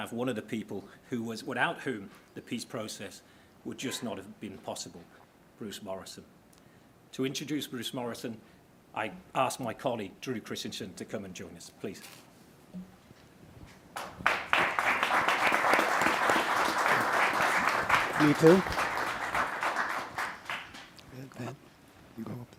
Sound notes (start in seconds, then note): 13.9 applause